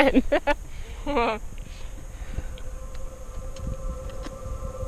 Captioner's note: laughing